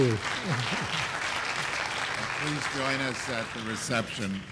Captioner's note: applause